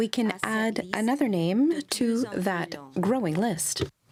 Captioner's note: speaking french